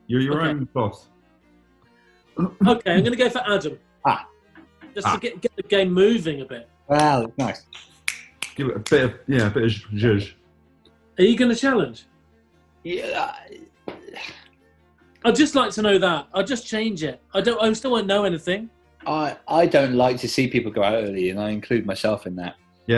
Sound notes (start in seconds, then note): 8.0 horne clicks fingers; 12.9 mumbles and sighs